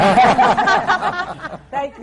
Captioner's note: laughter